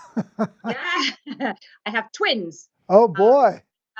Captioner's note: chuckles